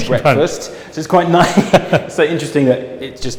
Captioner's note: laughs